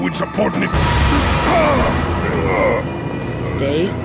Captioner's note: groaning